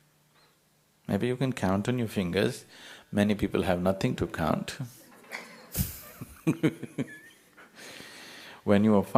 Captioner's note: يضحك